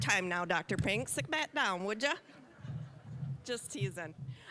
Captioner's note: audience chuckling